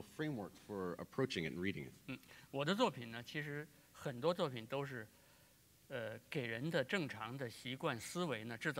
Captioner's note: speaking in Chinese